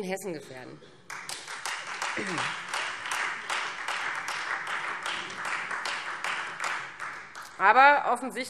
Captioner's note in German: Beifall Freie Demokraten